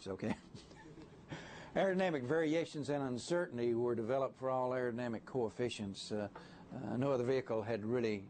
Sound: laughter

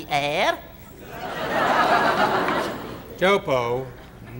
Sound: crowd laughing

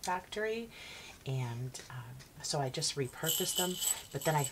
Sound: hooks rattling

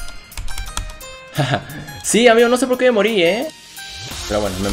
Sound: laughs

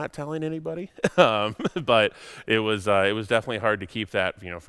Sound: giggles

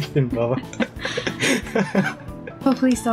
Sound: laughs

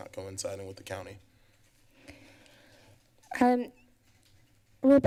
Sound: pause

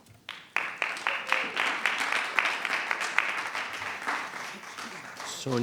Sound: attendees applauding

